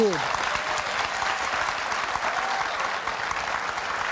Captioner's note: audience cheering